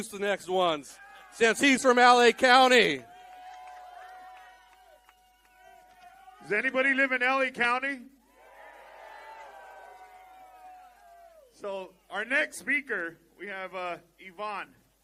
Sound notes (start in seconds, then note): 6.1 applause; 12.1 applause